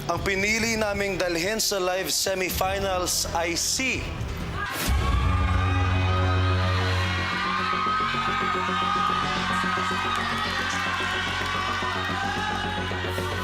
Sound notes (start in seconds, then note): 4.0 suspenseful music playing; 4.6 cheering